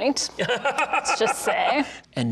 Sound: laughing

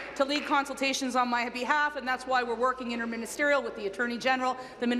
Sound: applause

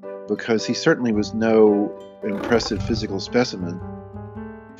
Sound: roaring

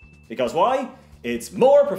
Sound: dings

